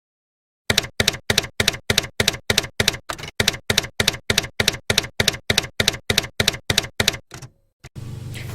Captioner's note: typewriter keys clacking